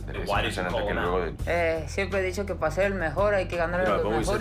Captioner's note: speaking Spanish